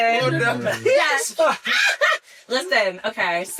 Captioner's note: screams